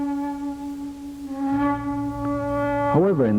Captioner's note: ship's horn